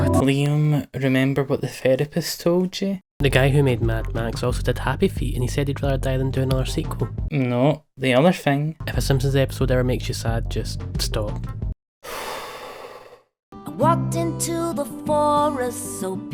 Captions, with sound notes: Liam remember what the therapist told you. "The guy who made Mad Max also did Happy Feet and he said he'd rather die than do another sequel." No the other thing. "If a Simpson's episode ever makes you sad, just stop." *SIGH*